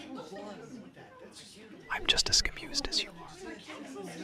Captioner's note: whispering